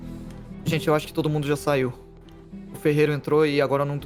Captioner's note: none